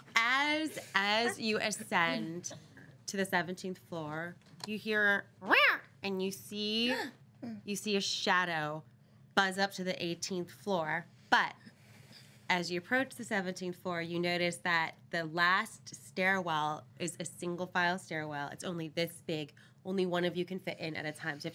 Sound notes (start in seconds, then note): 0.0 girls laughing; 6.9 girl snarls like cat